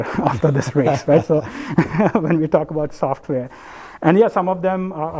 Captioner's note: laugh